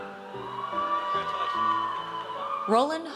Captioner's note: audience cheers